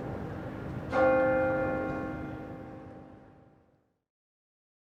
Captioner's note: bell chimes